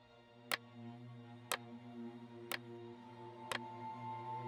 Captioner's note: clock ticking